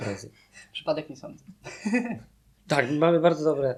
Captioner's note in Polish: śmiech